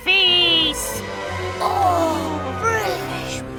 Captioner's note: gasping